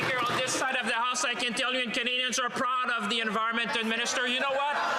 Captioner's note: some Applause